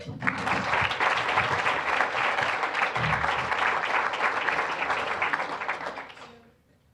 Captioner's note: applause